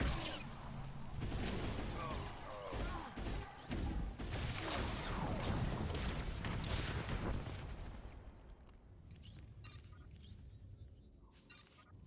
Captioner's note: explosion